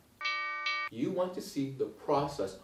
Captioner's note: alarm ringing